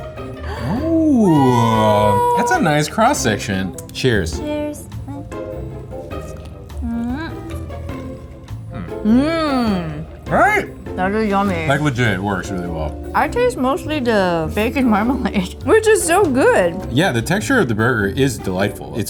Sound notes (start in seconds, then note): 0.3 gasping; 5.6 burger crunching